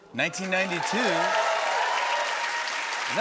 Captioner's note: cheers and applause